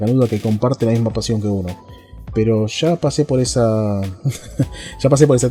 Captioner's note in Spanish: risas